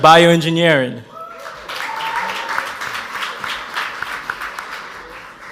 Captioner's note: audience applauds